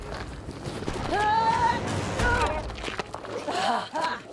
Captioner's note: Eleanor yells; Eleanor laughs and yelps